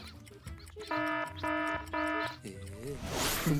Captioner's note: clock buzzes; clock ticking